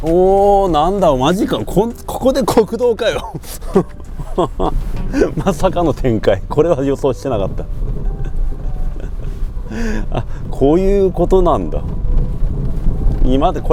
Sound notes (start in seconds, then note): 2.9 laughs